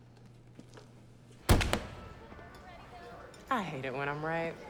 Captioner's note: car door thuds